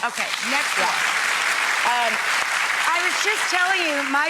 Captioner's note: applause